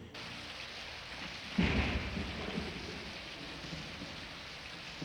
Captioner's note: thunderclap